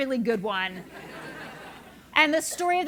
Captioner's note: laugh